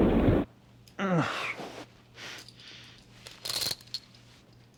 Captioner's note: Terry moaning